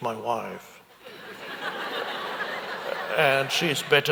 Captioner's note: audience laughs